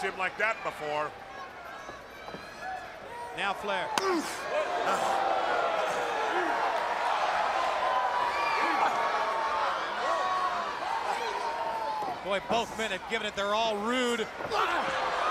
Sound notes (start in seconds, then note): 4.7 crowd cheering; 15.0 crowd cheering